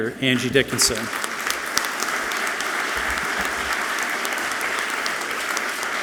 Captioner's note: audience clapping loudly